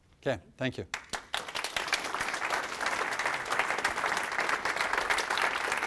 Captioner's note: applause